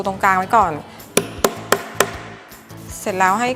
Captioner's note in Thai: เสียงตอก